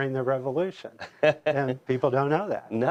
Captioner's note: laughs